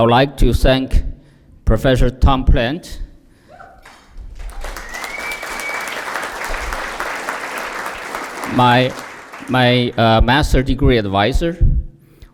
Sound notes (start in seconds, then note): 3.8 applause